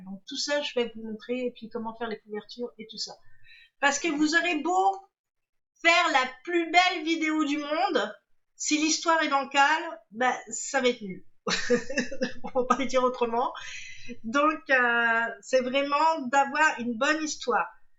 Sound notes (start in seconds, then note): 11.6 laughs